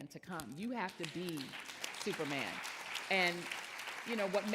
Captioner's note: audience applauding